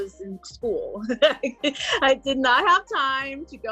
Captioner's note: laughing